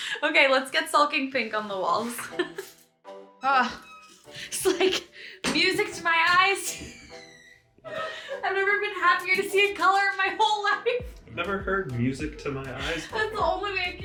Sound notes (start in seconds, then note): 2.0 laughs; 7.8 laughs